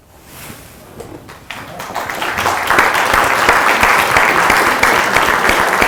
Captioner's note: applause